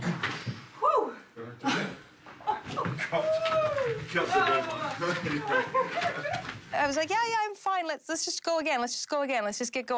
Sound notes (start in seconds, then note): 2.3 chuckling